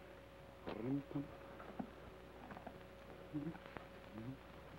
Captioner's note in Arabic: يدندن بلحن جميل